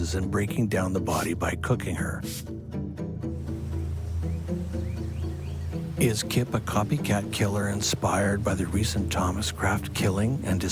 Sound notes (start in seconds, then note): 3.3 birds chirping; 4.2 dramatic music